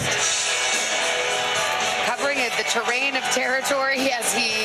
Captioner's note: cheers and applause